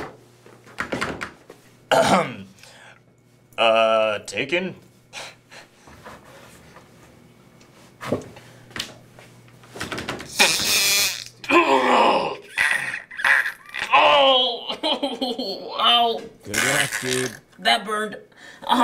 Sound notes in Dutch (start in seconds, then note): 10.2 makes farting sound